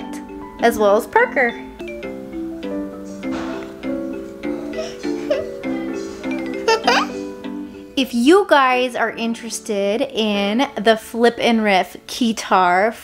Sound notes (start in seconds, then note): 2.3 playful music; 4.6 laughing